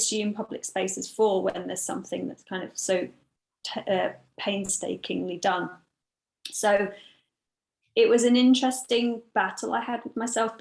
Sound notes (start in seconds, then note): none